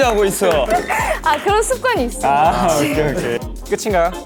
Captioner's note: habitual laughter hehe